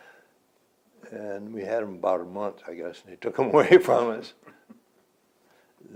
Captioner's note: laughs